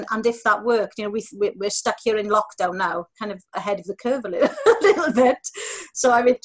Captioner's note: she laughs